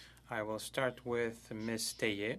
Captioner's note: speaking French